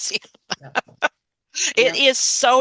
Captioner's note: laughing